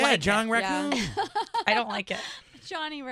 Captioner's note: laughing